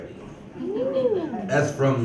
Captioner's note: audience member woos